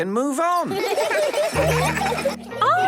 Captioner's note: laughter